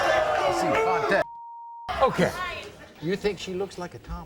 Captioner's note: beep